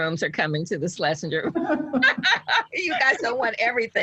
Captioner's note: both laughing